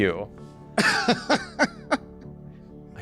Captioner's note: laughs